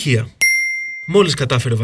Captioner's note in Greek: ήχος από καμπανάκι